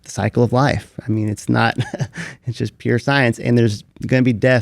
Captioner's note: laughs